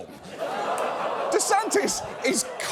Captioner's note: audience groans